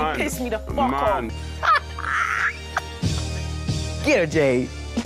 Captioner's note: woman laughs